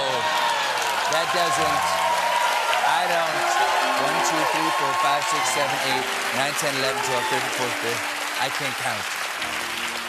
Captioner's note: cheers and applause